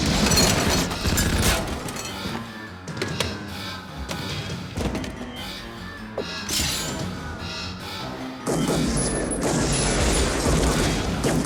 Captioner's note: gun fire